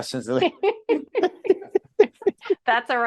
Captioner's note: laughing